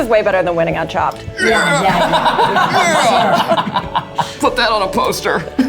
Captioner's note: laughs